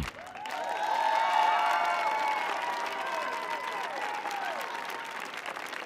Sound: audience clapping and cheering

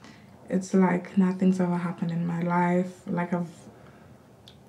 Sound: none

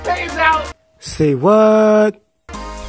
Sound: yelling; voiceover

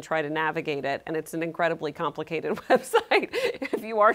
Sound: chuckling

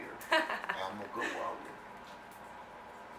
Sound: laughter

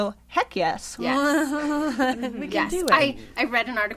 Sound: laughter

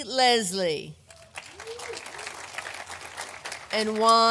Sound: audience applauding

